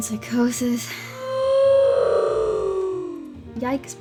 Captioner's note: long "oof" sound effect